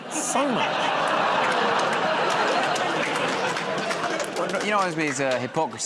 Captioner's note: laughter, groaning